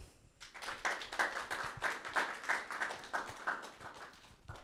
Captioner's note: audience clapping